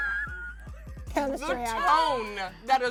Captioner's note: laughing